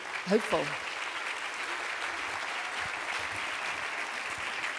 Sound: applause

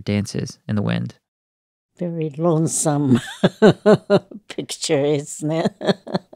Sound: laughter

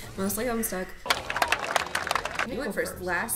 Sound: clapping

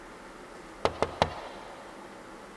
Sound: knock on door

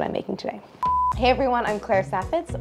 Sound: beep

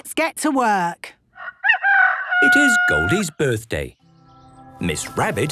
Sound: rooster crowing

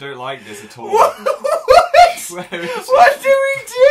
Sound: laughing again XD

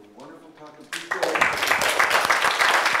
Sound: applause

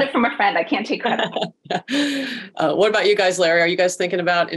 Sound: laughs

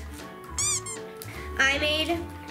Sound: frog squeaking

